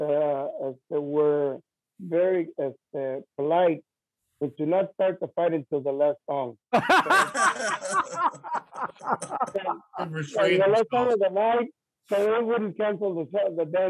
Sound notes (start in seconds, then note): 6.7 laughter